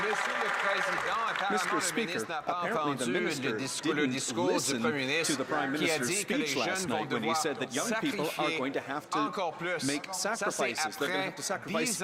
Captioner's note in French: voix de l'interprète